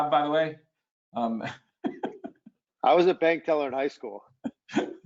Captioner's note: laughs